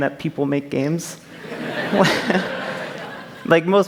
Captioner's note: laughter